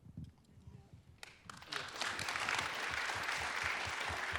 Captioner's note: applause